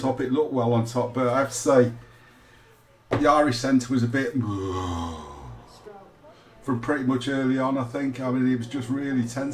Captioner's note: disappointed groan